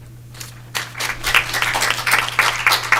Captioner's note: applause